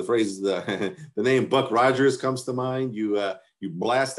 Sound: chuckles

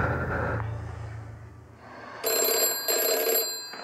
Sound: phone ringing

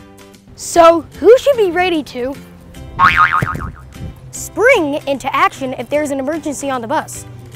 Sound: boing sfx

